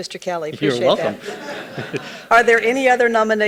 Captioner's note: people laughing